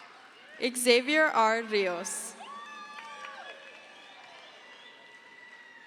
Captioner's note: crowd cheers